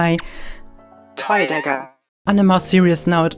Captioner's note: electronic Voice